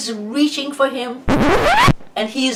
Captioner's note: record screech